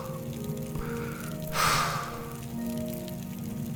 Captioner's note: narrator sighs